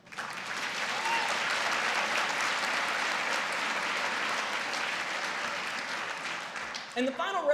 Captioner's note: applause